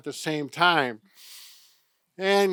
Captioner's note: inhales loudly